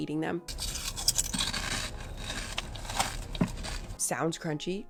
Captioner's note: chips crunching